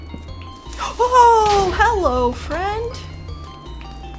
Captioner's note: gasp